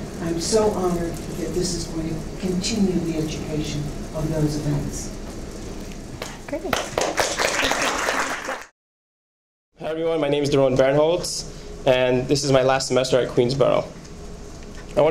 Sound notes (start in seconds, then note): 6.6 applause